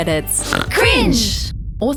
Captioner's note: snorts